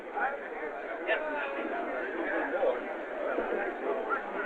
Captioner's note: chatter